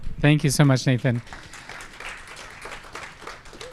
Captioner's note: applause